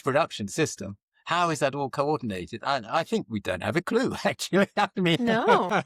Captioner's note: laughs